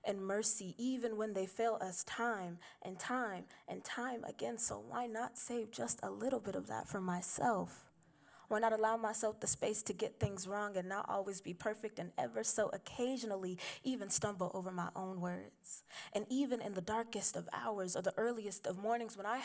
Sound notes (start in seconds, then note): none